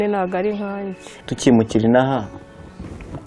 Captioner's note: speaking in Kinyarwanda